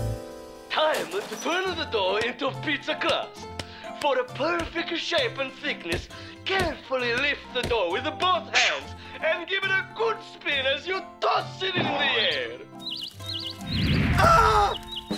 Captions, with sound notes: TIME TO TURN THE DOUGH INTO PIZZA CRUST. FOR THE PERFECT SHAPE AND THICKNESS, CAREFULLY LIFT THE DOUGH WITH BOTH HANDS AND GIVE IT A GOOD SPIN AS YOU TOSS IT IN THE AIR. (birds chirping) AH!